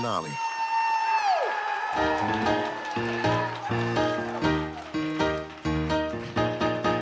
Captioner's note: crowd cheering; upbeat piano music